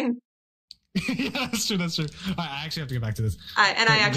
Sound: laughs

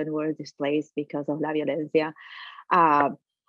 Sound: speaking in foreign language

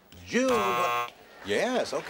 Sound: buzzer

